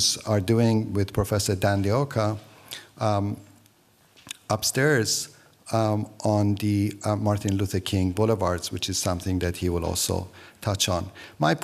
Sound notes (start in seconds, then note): none